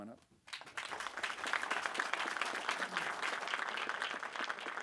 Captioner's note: attendees applauding